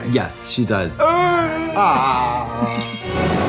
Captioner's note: both moaning; dramatic music